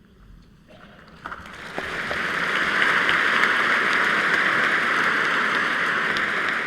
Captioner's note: applause